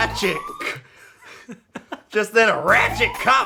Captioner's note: laughs